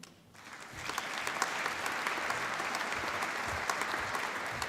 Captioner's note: applause